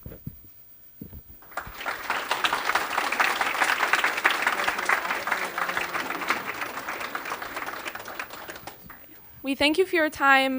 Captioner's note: applause